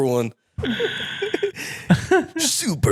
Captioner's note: laughing